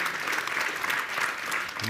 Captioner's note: applause